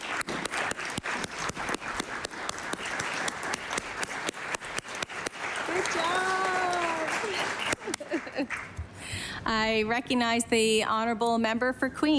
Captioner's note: applause